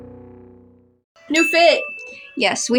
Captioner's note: ding